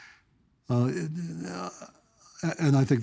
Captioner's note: stammering